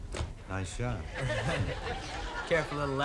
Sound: audience laughing

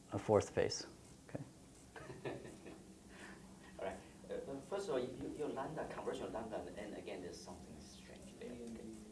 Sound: laughter

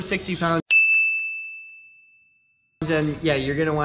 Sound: bell ringing

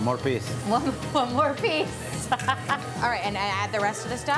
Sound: laughing

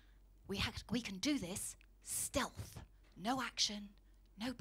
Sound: continues whispering

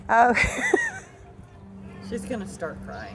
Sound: laughs

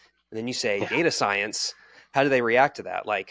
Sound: chuckling

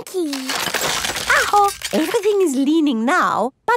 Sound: house creaking

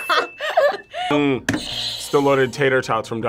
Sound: laughs; buzzer rings

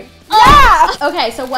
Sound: exclaiming

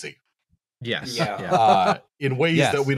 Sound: general agreement

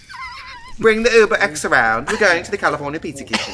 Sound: laughs

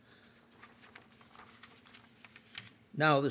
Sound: papers rustling

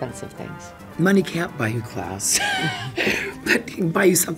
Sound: laughs

